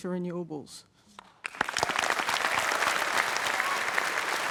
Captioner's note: applause